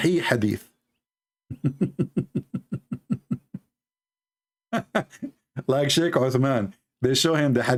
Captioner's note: Ketawa